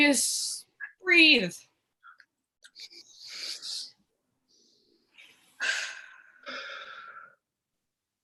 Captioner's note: deep Breathing